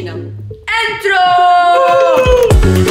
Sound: cheers

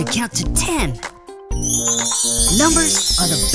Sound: chimes

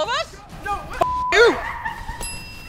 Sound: beep; laughing

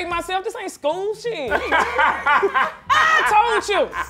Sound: laughing

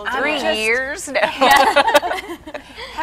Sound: laughing

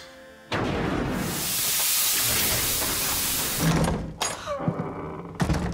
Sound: steam hissing; door creaking open

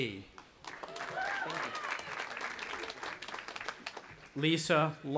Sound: audience applauding and cheering

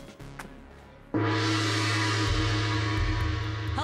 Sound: gong sounding

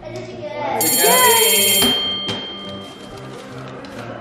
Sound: bell ringing

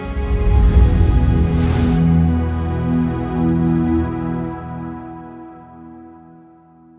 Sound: gentle music; logo whooshing

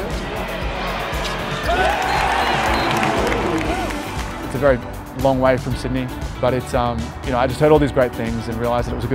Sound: crowd cheers

